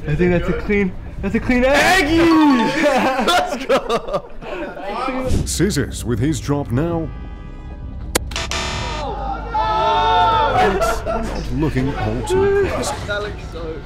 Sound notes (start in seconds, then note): 2.4 laughs; 8.1 crashes; 8.2 buzzer